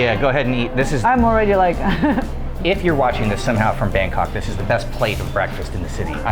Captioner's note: laughing